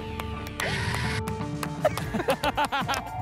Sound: applause and cheering; laugh

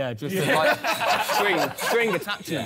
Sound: all laughing

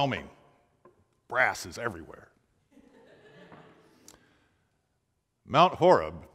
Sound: laughing

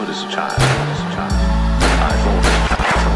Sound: banging

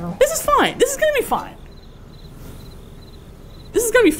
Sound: crickets

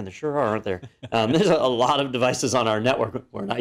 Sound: laugh

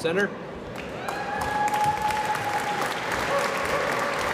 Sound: applause

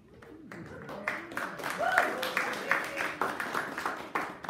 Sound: audience applauding

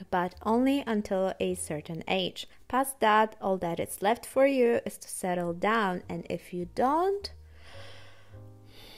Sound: sigh

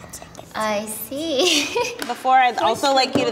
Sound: chuckles

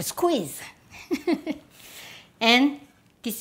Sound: laughs

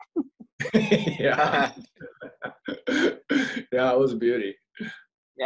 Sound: laughs

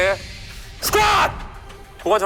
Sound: booms

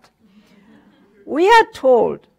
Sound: audience laughter

